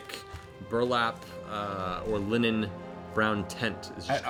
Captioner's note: none